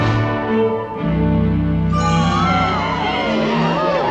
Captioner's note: crowd gasping